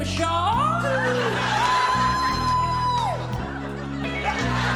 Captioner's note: group member exclaiming; audience laughing